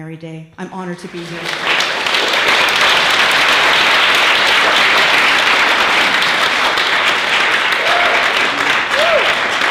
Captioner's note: applause